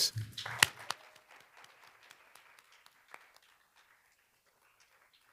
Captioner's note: board members applauding